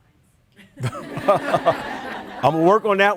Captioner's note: everyone laughing